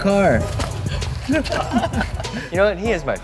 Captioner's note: laughs